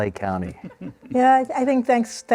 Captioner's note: laughter